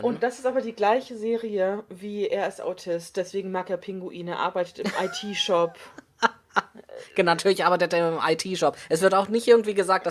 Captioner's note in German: lacht